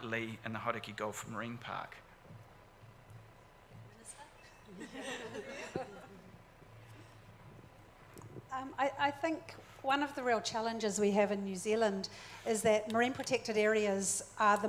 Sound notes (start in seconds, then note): 4.7 panel laughs